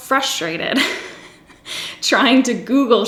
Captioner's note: giggles